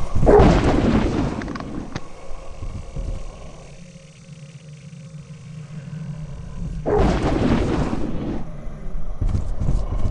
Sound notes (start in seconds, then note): 0.3 thwoop!; 6.8 thwoop!